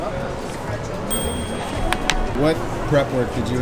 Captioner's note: ding